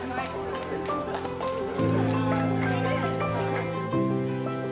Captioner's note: people applaud